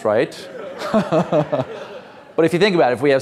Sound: all laughs

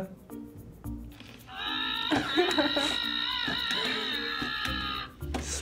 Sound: Furbacca wookiee-ing; chuckles

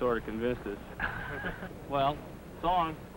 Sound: laughter

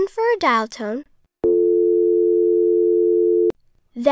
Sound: dial tone plays

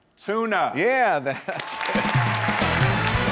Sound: audience applauding

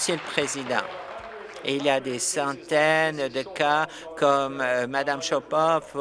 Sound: applause

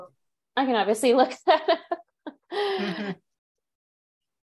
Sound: laughter

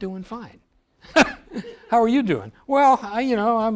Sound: laugh

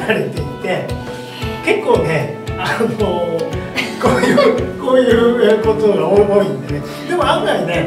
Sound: laughs

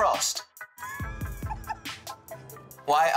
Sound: laughing

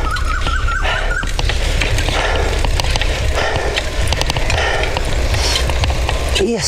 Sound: deep Breathing

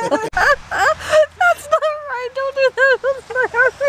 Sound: laughing and mumbled

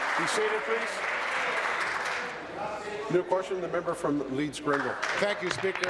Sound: applause

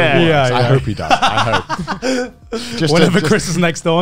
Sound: laughing

